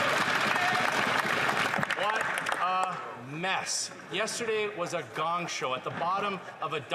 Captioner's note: some Applause